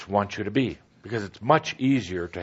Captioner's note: none